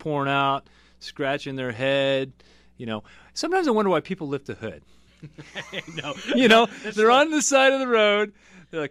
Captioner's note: laughs